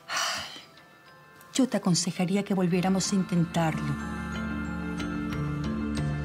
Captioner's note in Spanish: exhala